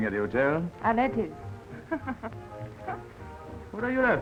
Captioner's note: chuckles